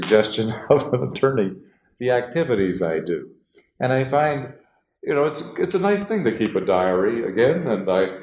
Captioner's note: laughs